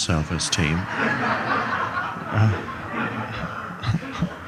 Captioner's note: audience laughs